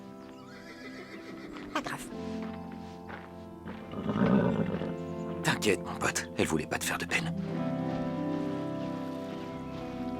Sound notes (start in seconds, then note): 3.8 horse grumbling; 7.9 birds chirping